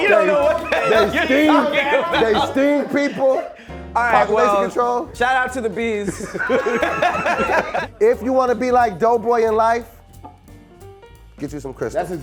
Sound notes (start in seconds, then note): 6.0 laughing